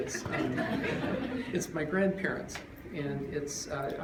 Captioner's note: laughter